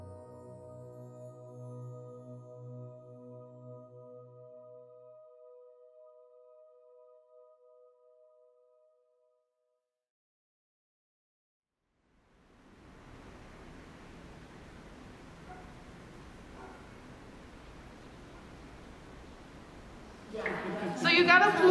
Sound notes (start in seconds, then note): 12.5 city ambience; 15.2 dog barks